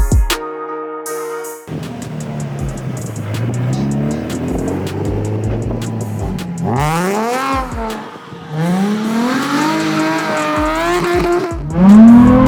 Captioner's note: car drifting noise